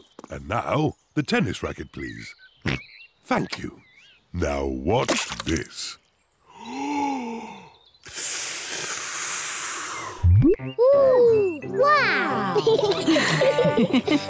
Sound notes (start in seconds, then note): 2.8 oinks; 8.0 takes big breath and blows; 12.3 all laugh